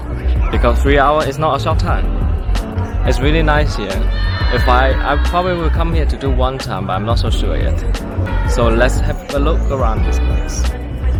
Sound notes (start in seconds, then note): 7.7 laugh